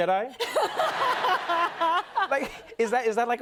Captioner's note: laughter